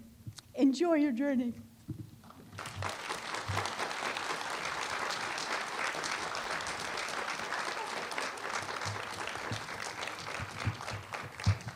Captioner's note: applause